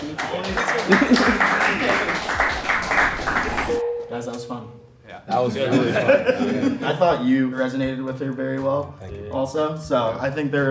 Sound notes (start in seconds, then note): 0.0 applause; 7.3 laughing